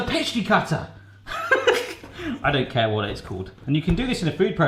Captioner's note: laughs